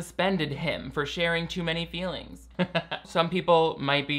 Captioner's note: chuckles